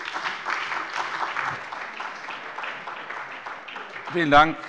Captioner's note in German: Beifall bei der SPD und bei Abgeordneten der FDP